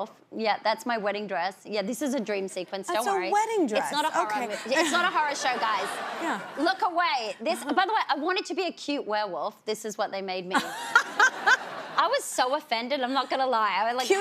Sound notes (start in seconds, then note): 4.6 audience laughing; 6.5 laughs; 10.6 laughs